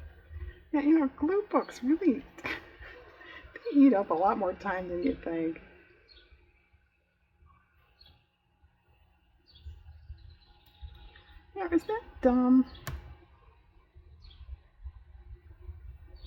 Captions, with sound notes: yeah you know glue books really eat up a lot more time than you think (laughs) is that dumb?